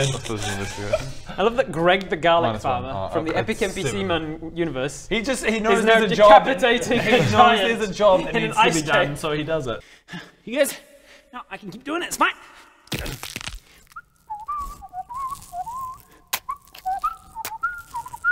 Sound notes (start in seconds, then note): 12.9 crack